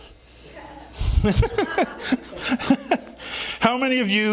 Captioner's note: laughs